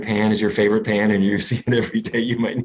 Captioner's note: laughs